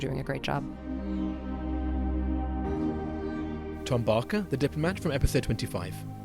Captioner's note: voiceover